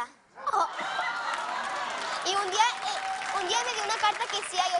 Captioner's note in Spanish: risas